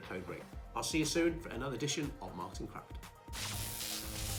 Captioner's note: electric Buzz